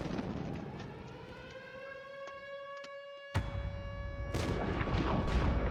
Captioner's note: intense music playing; sirens blaring